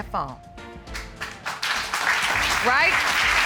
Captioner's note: applause